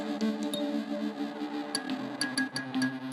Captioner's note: pinging